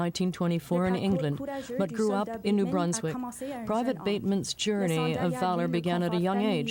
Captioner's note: speaking French